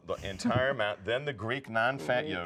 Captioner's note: laughing